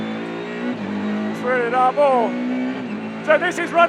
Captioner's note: car engine roaring